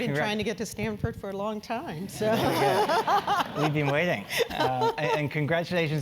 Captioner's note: laugh